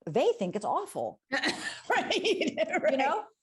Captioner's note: laughs